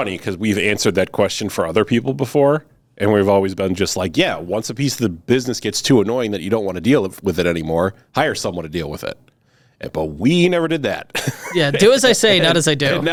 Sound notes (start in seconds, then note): 11.1 laughing